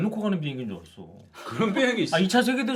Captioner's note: incredulous